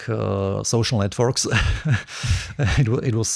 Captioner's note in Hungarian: nevetés